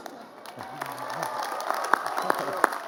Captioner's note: applause